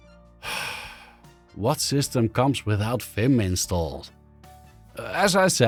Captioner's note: sigh